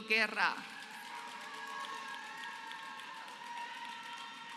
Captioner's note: applause